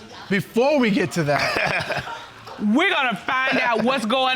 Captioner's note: laughing